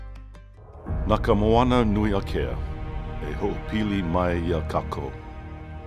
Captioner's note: announcer speaking in foreign